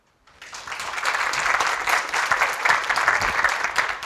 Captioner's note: applause